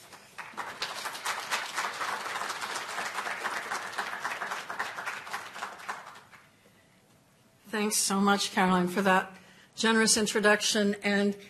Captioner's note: applause